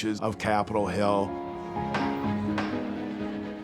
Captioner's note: gavel bangs